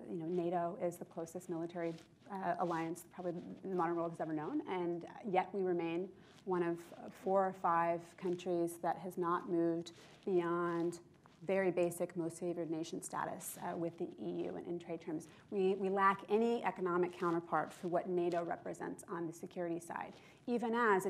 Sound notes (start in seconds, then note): none